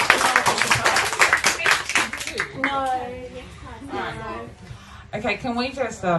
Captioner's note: applause